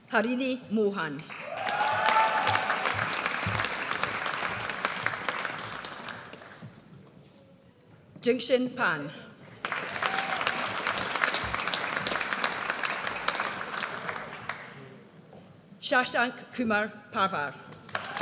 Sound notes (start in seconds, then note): 1.4 audience cheers; 9.6 audience applauds